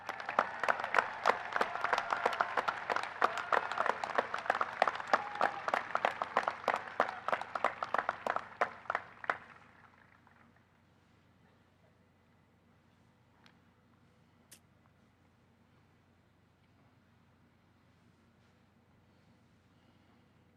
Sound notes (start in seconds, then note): 7.6 applause